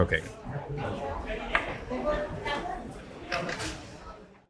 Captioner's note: people chattering continues; utensils knock